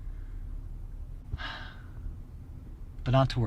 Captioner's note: sighs